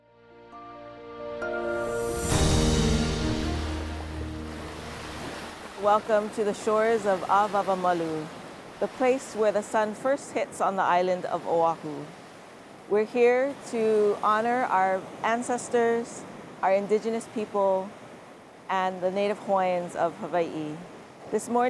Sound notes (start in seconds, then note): 0.0 gentle calming music; 4.6 ocean water sloshing